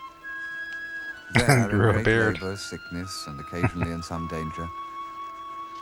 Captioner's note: chuckling